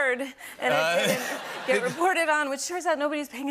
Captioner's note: laughter